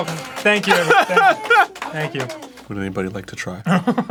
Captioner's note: applause